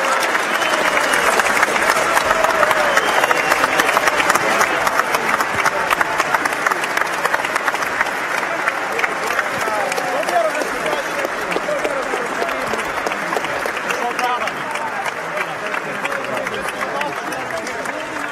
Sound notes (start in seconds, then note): 2.3 cheering and applause